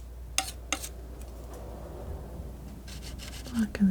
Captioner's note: metal scraping; metal scraping